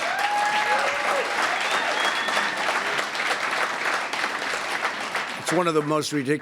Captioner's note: applause